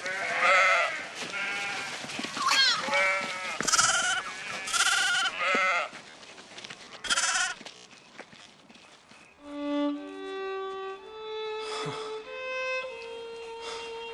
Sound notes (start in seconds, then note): 2.4 baby sheep bleating